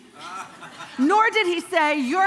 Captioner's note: congregation laughing